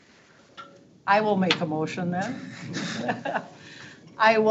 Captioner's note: laughs